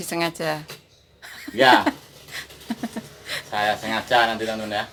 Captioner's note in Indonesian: tertawa